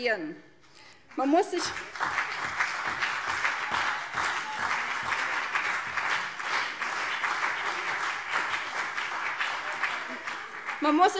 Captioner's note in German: Beifall CDU und BÜNDNIS 90/DIE GRÜNEN - Zuruf SPD